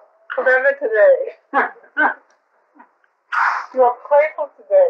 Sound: laughter

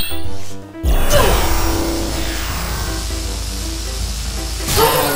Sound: laser fires

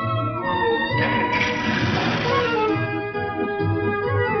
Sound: engine sputters

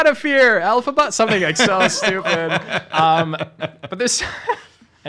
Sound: laughing

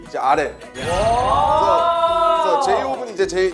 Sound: everyone shouts out

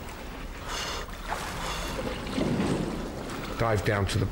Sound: panting

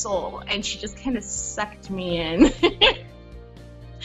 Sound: laughing

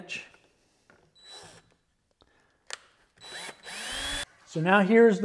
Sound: drill operating

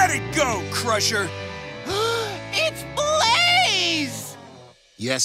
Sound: gasps

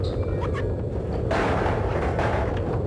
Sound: fold-out chairs clanging

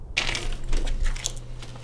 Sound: door opens

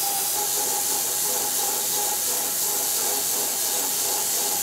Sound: saw buzzes

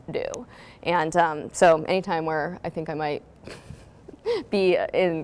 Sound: giggles

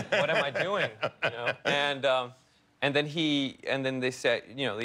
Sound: laughter

